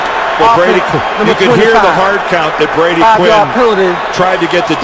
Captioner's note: crowd noise